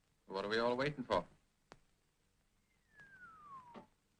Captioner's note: Harry whistles